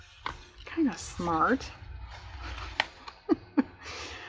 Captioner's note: laughs